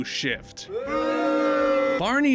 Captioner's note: crowd booing at my terrible and obvious joke